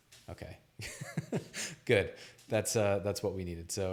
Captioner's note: laughs